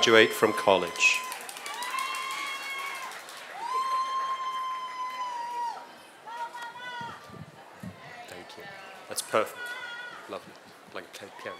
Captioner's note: applause